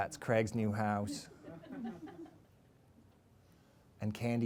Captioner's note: laughter